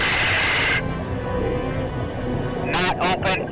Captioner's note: static over radio